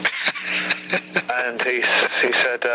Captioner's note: host chuckles